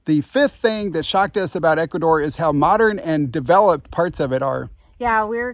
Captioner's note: none